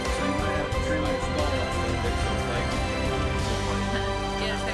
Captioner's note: talking